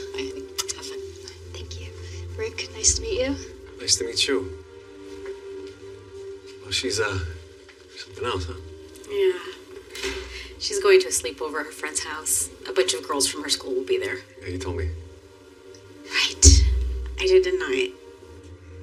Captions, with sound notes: -Havave fun. -Byeye. Thank you. RiRick, nice to o meet you. NiNice to meetet you. WeWell, she's, u uh, somemething else, , huh? Yeah.. [door clososes] She'e's going to a a sleepovr at her f friend's hohouse. A buncnch of girlsls from herer school willll be th. YeYeah, you toldld me. RiRight. I did, d didn't I?